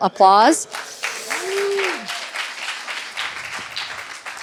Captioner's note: applause